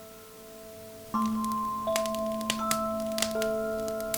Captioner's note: food Sizzling